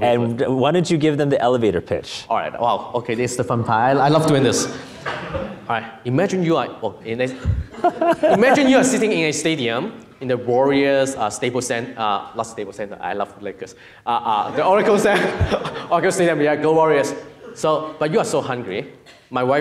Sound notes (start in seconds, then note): 4.3 audience laughing; 7.4 laughs; 14.4 audience laughing